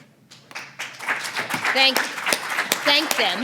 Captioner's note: applause